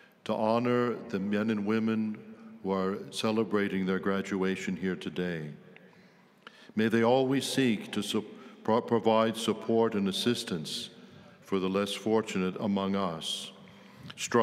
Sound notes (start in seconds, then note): none